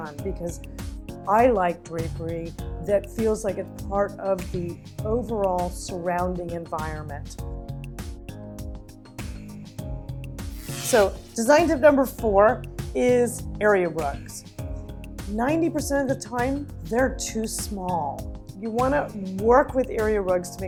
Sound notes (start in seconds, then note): 7.6 gentle music; 10.4 buzzing